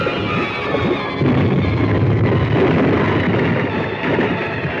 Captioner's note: explosion